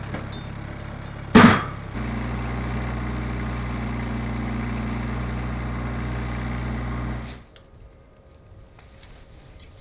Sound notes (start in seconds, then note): 4.4 engine revving